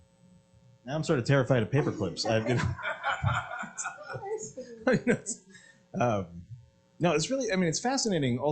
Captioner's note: laughter